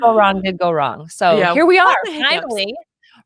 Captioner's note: talks quickly